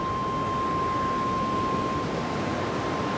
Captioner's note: none